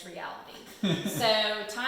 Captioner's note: laughs